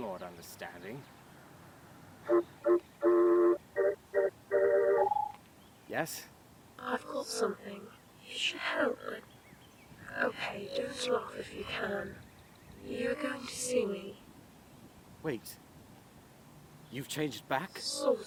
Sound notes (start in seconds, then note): 1.9 ringtone